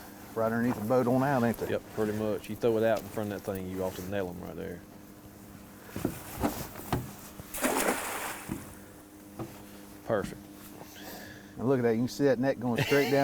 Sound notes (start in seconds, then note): 7.5 water splash